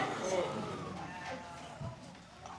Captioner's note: audience gasping; audience murmuring